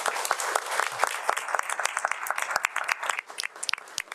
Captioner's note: crowd applauding